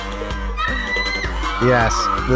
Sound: everyone laughs; woman screams

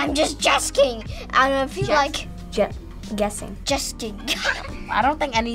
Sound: laughs

